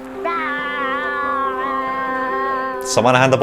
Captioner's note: vocalising